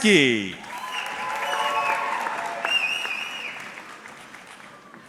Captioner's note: audience cheering